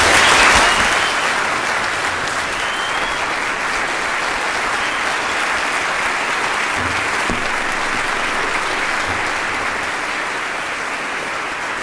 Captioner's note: applause